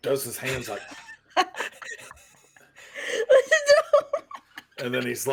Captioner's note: everyone laughs